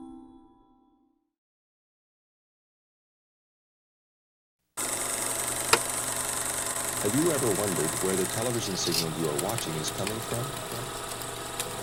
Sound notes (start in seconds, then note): 4.8 film reel clicks